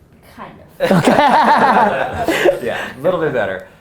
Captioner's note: group laughter